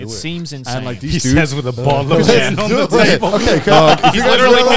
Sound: group chattering

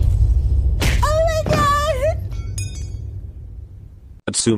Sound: metal clinks

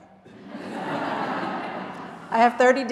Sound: audience laughing

